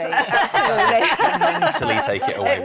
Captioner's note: laughing